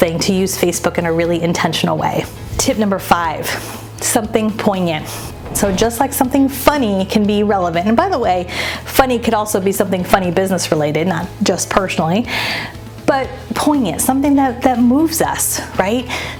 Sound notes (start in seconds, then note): 2.3 air whooshing; 4.7 air whooshing